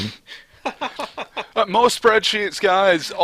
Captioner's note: laughter